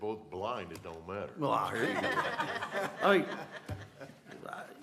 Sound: laughter

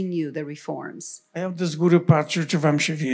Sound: foreign language

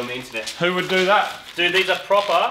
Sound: sarcastically

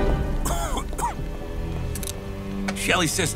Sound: agent coughing

